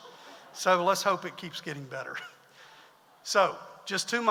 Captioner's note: audience laughs; chuckles